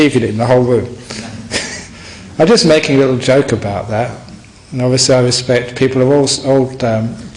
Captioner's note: laughs